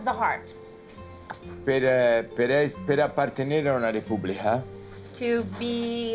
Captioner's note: Dario speaking Italian